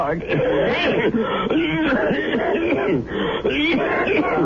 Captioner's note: laughter